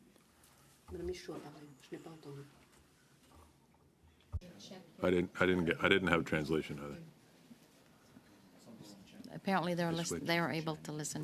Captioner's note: speaking French